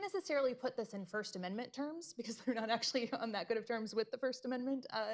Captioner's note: laughs